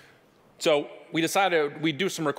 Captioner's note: none